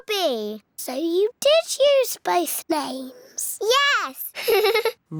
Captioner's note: laughs